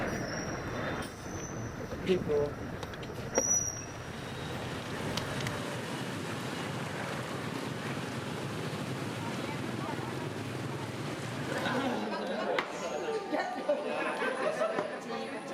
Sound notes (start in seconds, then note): 8.7 traffic humming; 11.4 laughing and conversing